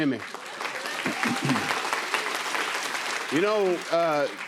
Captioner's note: applause